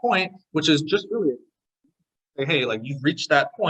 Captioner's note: audio distortion